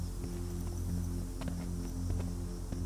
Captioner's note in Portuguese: zumbido de insetos